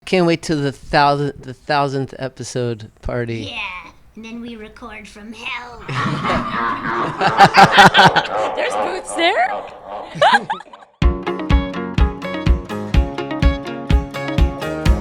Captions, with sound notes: - Can't wait til the thousandth episode party. - Yeah, and then we record from hell. (all laughing demonically) There's booths there? (laughs) (upbeat lively music)